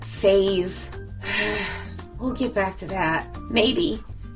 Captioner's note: deeply sighs